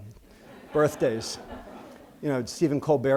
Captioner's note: laughter